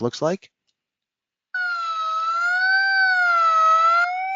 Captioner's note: beeping